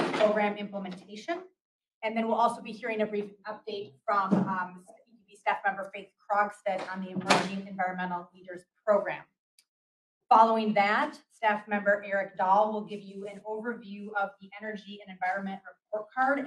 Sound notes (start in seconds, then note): 7.0 loud noise